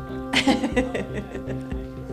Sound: laughing

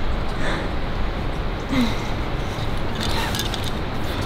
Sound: pants, groans

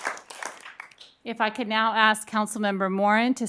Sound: applause

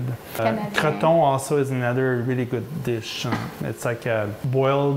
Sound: french 00:05:47

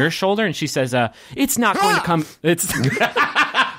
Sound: laughing; Magnus shouts

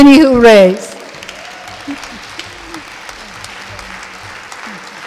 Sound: audience applauding

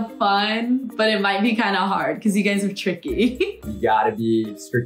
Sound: laughs

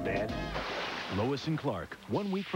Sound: splashing

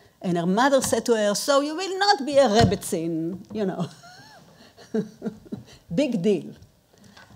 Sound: chuckles

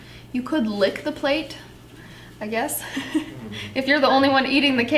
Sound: giggles

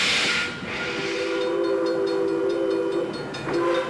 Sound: bell tolling

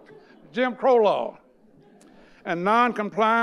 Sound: audience laughing

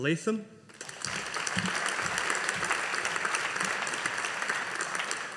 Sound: audience applauding

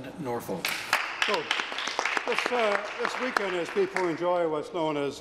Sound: some Applause

